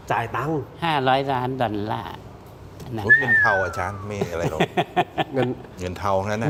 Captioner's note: laughter